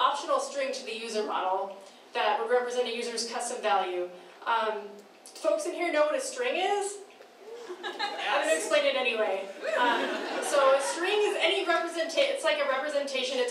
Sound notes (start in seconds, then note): 7.6 cheering; 10.1 laughing